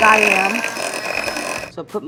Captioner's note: mixer whirring